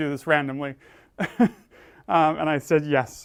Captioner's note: laugh